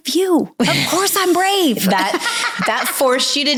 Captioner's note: laughing